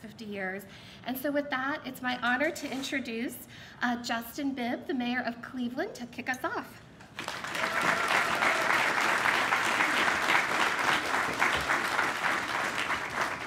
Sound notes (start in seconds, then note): 7.1 applause